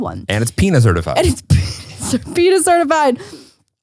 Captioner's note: laughs